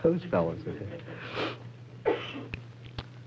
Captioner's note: inhalation